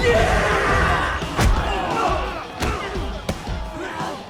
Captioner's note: blows thudding